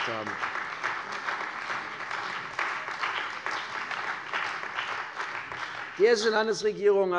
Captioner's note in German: Beifall bei der CDU und dem BÜNDNIS 90/DIE GRÜNEN